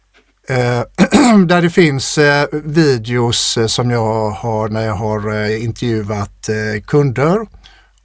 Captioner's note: clears throat